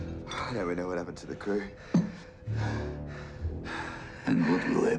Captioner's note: panting